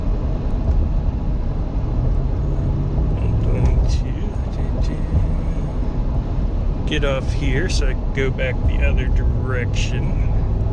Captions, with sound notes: I'm going to (humming) get off here, so I can go back the other direction